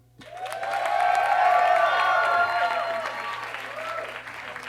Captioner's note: audience cheers and claps